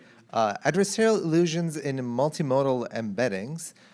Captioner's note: none